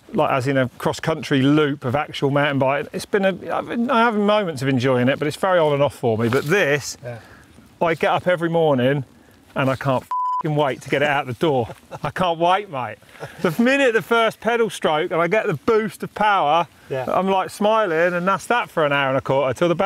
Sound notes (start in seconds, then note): 10.0 beep